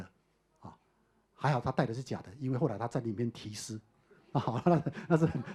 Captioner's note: audience laughter